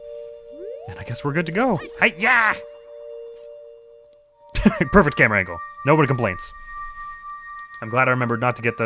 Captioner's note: laughs